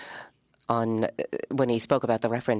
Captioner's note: speaking French